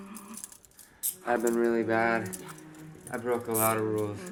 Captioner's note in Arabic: صوت نقر الأصفاد